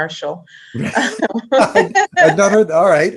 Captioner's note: laugh